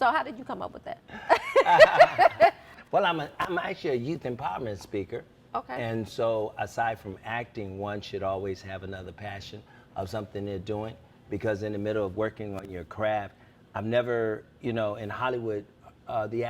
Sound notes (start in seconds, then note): 1.2 laughs